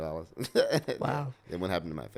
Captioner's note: laughs